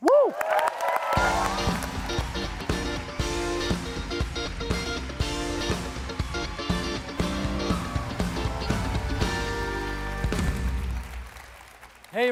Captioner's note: applause